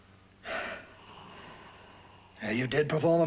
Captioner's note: Cortner sighs